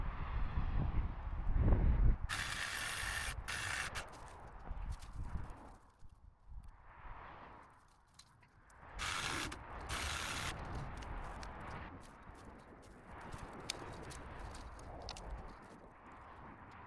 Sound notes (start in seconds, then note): 1.0 wind; 5.2 wind; 15.6 wind